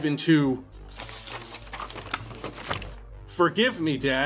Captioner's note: paper rustling